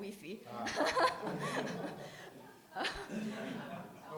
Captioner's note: all laughing